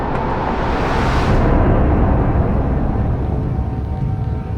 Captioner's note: engine roars